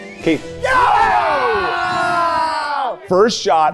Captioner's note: people cheering